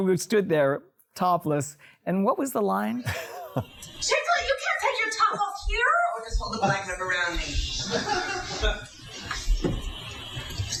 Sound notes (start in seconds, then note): 3.0 laughs